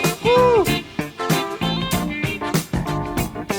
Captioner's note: exclaims